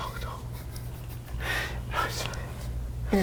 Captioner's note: laughs